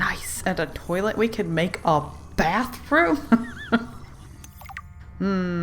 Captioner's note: laughs